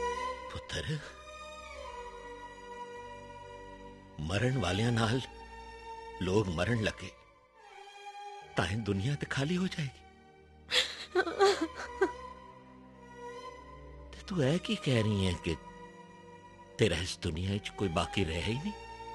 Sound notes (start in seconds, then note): 10.8 crying